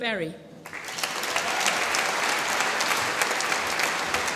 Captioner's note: applause